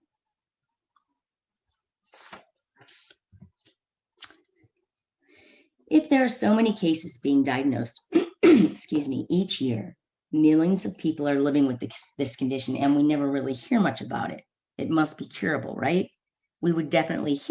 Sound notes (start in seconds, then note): 8.2 clears Throat